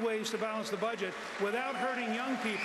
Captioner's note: applause